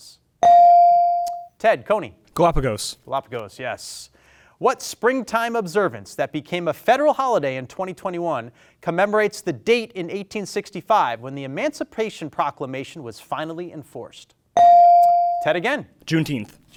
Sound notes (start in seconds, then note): 0.5 buzzer chimes; 14.6 buzzer chimes